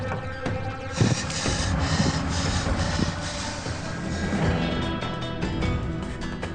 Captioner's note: Billy breathing heavily